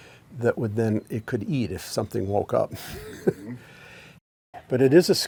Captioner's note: chuckles